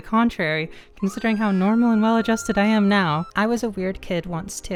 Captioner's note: woman screaming